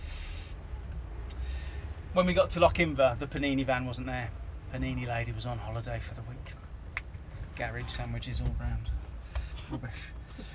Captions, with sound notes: When we got to Loch Inver, the panini van wasn't there. The panini lady was on holiday for the week. (snaps fingers) Garage sandwiches all round. Rubbish.